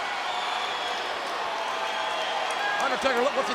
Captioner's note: audience cheering and clapping